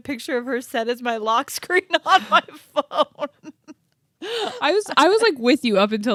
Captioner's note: laughs